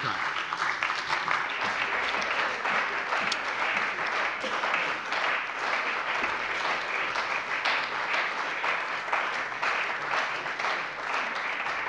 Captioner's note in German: Beifall bei dem BÜNDNIS 90/DIE GRÜNEN und der CDU